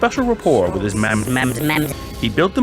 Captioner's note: it gets progressively pitched up